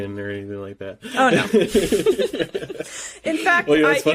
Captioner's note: laughing